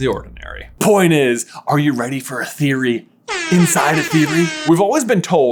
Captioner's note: air horn sound